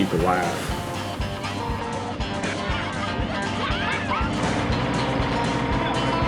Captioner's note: laughing